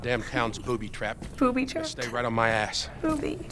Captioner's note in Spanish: riendo